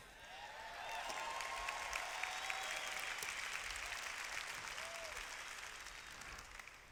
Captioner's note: applause